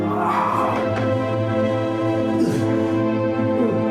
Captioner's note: Quincy hollers